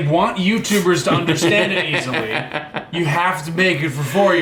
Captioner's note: chuckle